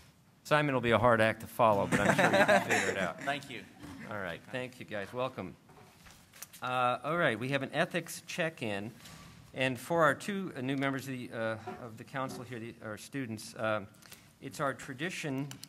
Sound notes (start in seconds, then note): 1.8 laughter